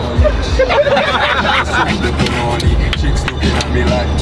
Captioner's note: all laughing